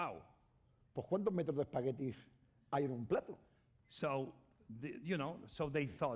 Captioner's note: speaking spanish